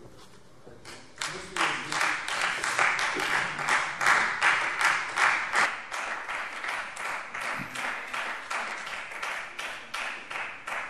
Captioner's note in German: Beifall Freie Demokraten